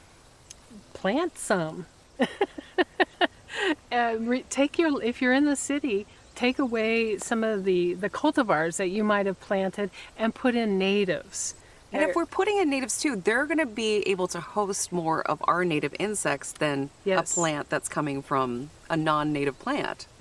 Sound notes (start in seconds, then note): 2.2 laughing